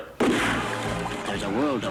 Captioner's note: gun bangs